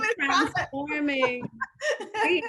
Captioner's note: laughing